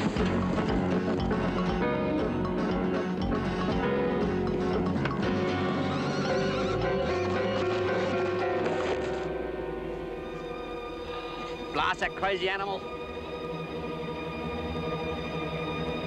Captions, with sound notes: (frenetic instrumental music) (terrified whinny) - Blasted, crazy animal!